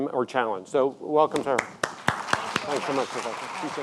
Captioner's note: audience clapping